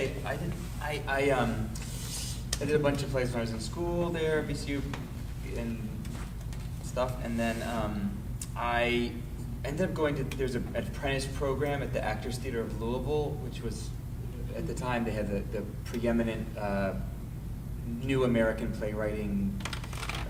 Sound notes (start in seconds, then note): none